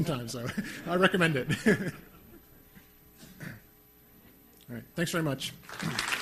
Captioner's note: laughs; laughs; crowd laughter